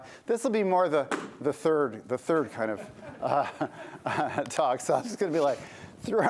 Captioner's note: laughter